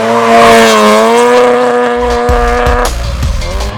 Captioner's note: tires squealing; engine revs